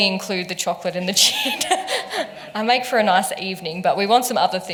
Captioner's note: laughs